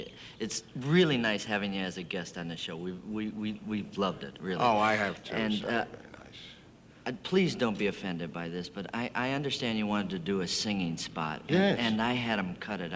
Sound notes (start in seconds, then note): 2.4 stutters